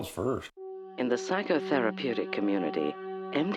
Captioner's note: voiceover